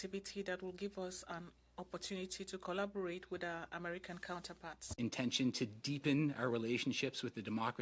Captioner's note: speaking French